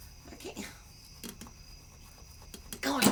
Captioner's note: scratching